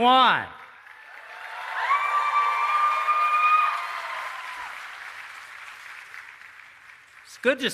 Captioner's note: applause